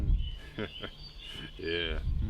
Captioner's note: chuckles